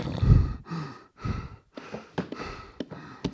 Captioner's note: breathing heavily